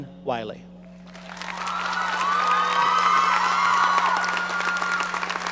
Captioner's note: audience cheering